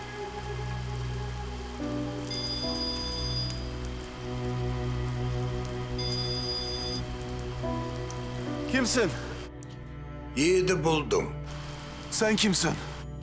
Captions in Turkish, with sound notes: [Telefon çalıyor.] Kimsin? Yiğit’i buldum. Sen kimsin?